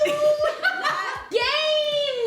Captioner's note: laughter